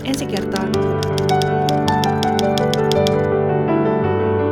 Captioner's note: typewriter tapping